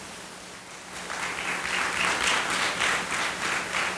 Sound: audience applauding

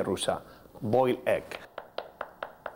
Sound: chopping

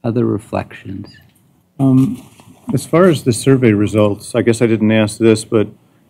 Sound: none

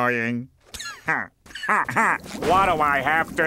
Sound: chuckles

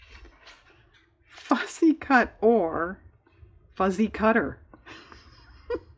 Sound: laughs

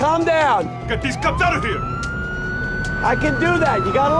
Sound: siren wails

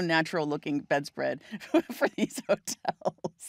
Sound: laughing

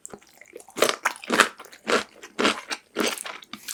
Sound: crunching sound

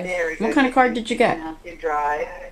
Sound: voiceover

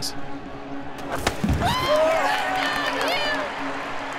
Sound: crowd cheers

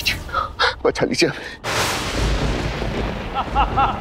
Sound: thunder crackling; evil laughter

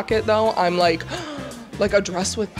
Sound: gasp

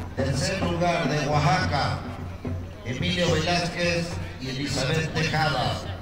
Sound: speaking a foreign language

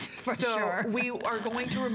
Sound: laughter

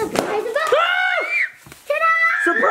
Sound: scream

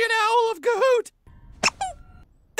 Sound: rubbery squeak

